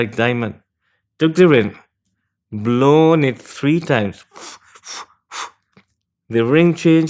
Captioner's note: blows